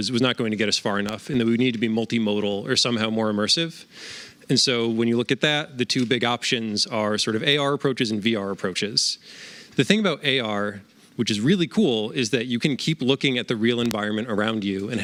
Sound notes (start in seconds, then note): none